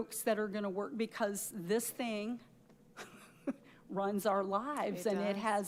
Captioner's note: chuckles